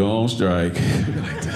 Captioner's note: audience laughing